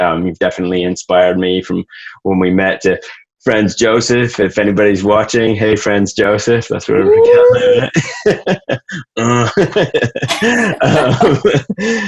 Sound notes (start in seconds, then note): 8.8 laughs; 10.5 both laugh